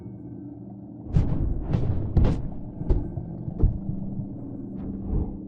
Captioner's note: blows landing